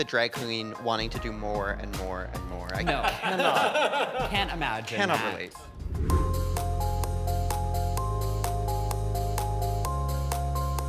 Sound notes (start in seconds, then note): 2.9 all chuckling; 5.6 image whooshes; 6.4 gentle upbeat music